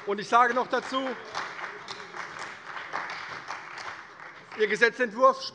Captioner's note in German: Beifall bei der CDU und dem BÜNDNIS 90/DIE GRÜNEN